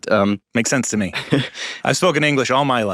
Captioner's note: giggles